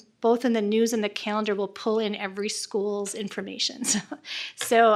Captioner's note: laughs